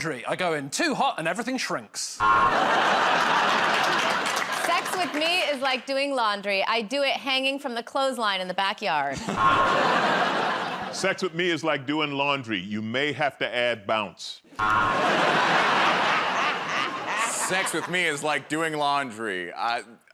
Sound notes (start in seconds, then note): 2.2 buzzer; 9.3 buzzer; 14.6 buzzer; 15.1 laughs